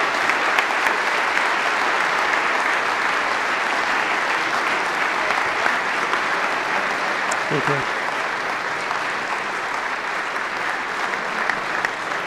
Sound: applause

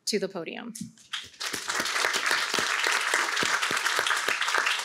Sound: applause

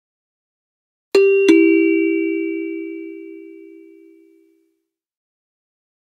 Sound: sound of ding dong

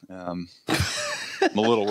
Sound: laughs

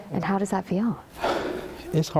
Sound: sighs

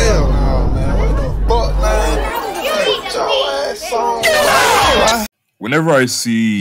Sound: WTF sound effects plays

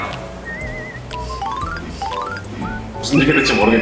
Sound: laughing

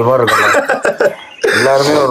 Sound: laughs

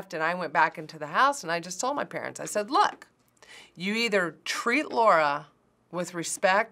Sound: none

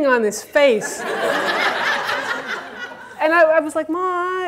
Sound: audience laughter

